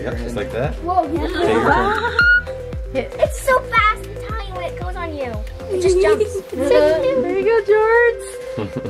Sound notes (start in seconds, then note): 2.6 screeches